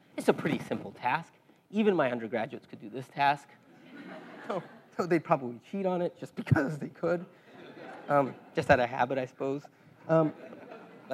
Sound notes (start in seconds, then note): 3.8 laugh; 7.5 laugh; 10.2 laugh